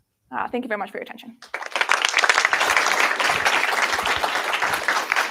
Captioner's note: applause